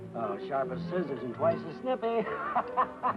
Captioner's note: happy laughing